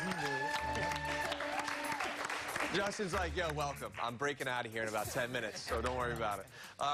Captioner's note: applause